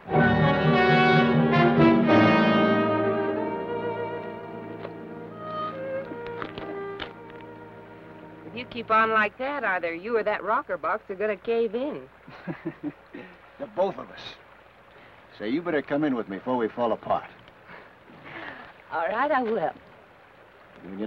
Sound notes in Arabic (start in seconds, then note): 0.0 موسيقى أوركسترالية مشؤومة; 3.5 موسيقى أوركسترالية هادئة; 12.3 بن يضحك; 17.8 لورا تضحك